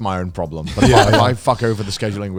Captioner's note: laughs